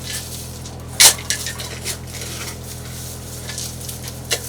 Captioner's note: shovel pounding